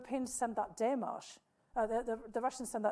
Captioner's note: speaking foreign language